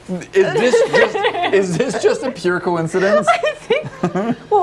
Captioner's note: almost hysterical, nervous laughter